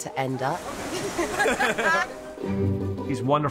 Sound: laughing

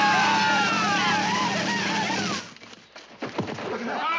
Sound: soldiers shout; soldiers laughing

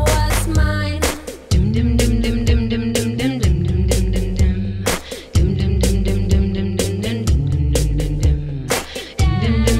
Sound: humming

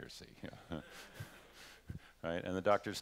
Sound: laughter

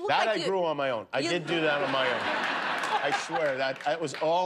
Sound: laughter

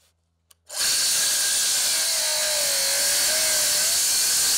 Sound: saw whirring

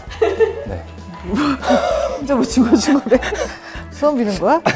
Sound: hahahahahaha

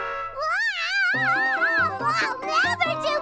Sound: Angelica screaming

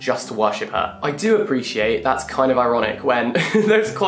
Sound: laughs

